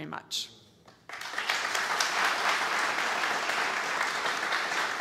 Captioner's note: audience applauds